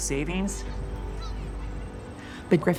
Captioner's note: children calling in background